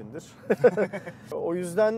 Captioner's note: laughings